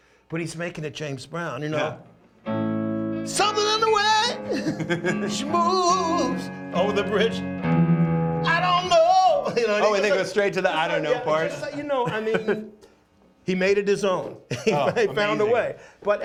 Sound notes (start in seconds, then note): 2.8 singing; 4.2 laughs; 8.4 singing